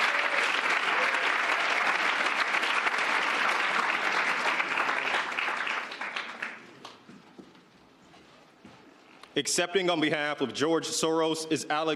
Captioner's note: applause